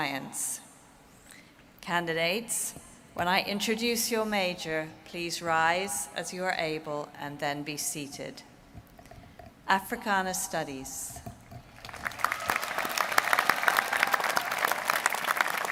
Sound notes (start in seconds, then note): 13.6 applause